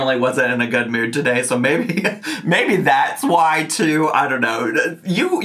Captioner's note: chuckling